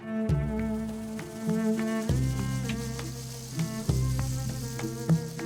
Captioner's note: shaker rattles